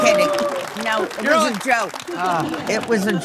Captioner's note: audience cheering